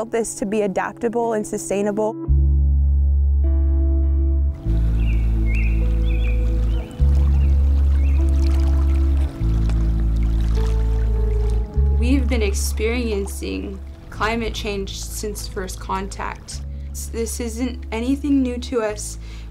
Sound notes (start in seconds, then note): 2.2 pensive music; 4.6 birds chirping; 6.7 water rustling